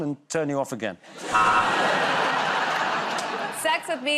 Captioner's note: laughter